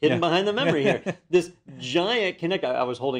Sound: laugh

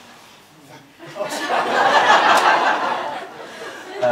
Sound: laughter

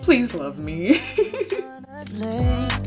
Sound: laughs

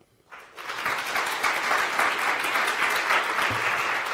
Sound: applause

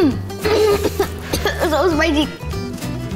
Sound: coughing

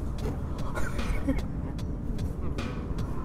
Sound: laughs

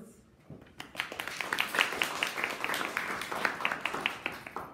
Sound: audience applauding

